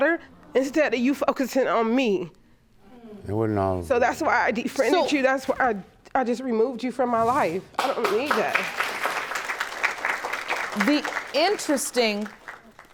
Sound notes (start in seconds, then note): 7.8 audience applauding